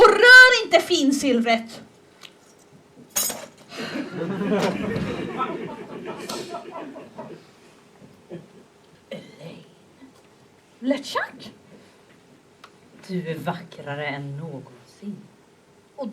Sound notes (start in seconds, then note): 3.7 laughter